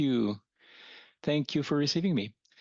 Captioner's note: speaking French